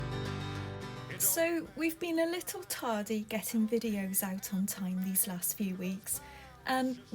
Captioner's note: voiceover